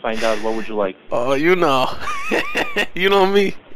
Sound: laughs

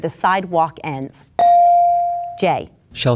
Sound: bell dinging

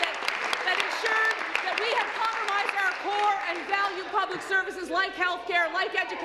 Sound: applause

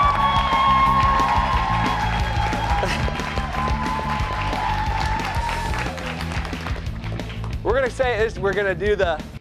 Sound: cheers and applause

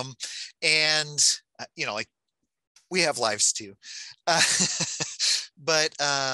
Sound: laughing

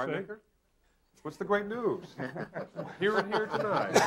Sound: all laughing

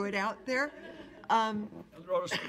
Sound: laughter

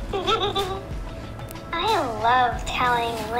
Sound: Tega giggles

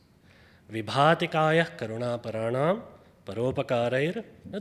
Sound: speaks foreign language

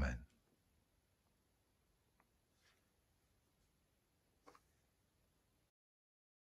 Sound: silence

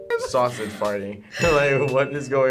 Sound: bell dings

